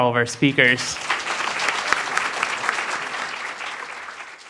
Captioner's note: applause